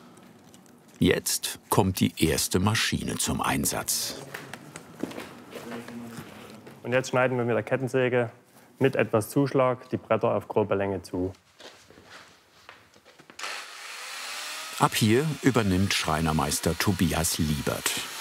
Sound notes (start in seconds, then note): 13.5 whirring